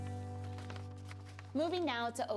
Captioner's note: paper crinkles